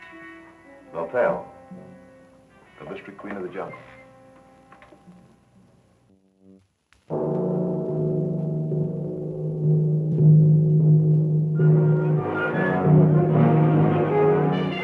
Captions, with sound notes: - Lothel, the mystery queen of the jungle. (gong resonating) (intense, high-energy music)